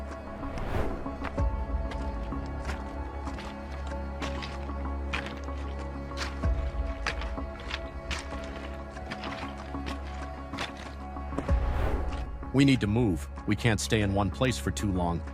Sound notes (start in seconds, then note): 0.7 edgy music continues; 3.1 air swooshing; 5.3 pebbles crunching; 9.2 edgy music continues; 11.4 air swooshing